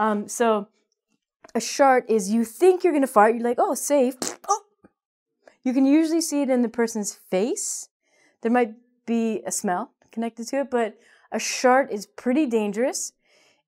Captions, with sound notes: So, a shart is you think you're going to fart, you're like: "Oh, it's safe." [Fart noise]. Oh. You can usually see it in the person's face. There might be a smell connected to it, but a shart is pretty dangerous.